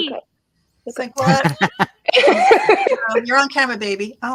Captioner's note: people laughing